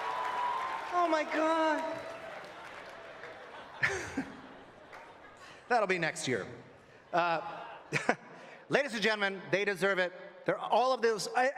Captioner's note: applause